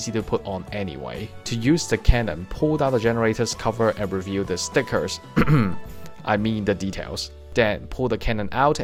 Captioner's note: cough